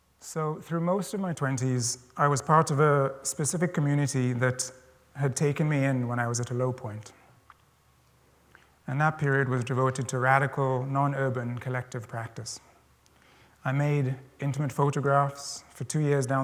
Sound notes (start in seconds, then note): none